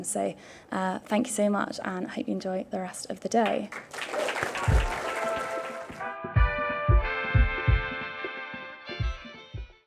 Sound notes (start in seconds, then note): 3.6 audience applauding; 6.2 upbeat music